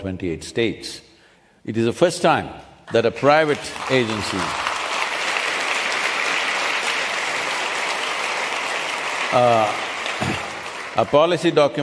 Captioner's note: applause